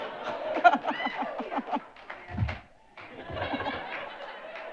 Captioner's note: audience laughing and cheering; chuckling